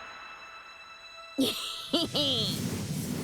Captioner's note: Sounds of Luffy’s laugh